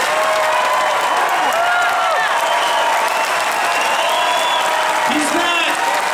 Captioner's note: audience Cheers